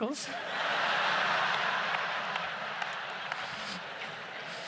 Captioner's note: audience laughs